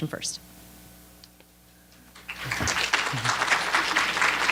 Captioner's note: applause